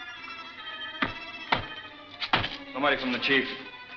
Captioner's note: knocking